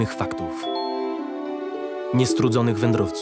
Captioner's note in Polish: sygnał powiadomienia z komputera